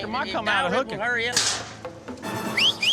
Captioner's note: gate clanging open; whistles